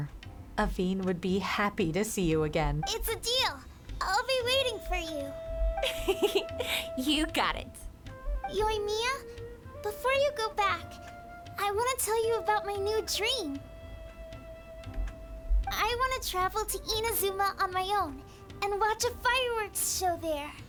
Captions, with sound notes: Avin would be happy to see you again. - It's a deal, I'll be waiting for you. (laughs) - You got it. - Yoimiya, before you go back, I wanna tell you about my new dream. I wanna travel to Inazuma on my own and watch a fireworks show there.